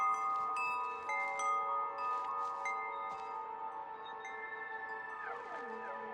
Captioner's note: wind chimes continue jingling